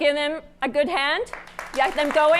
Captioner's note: applause